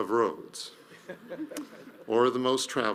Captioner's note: audience members laugh